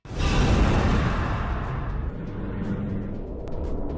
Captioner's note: woosh